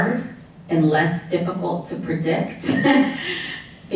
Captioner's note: chuckles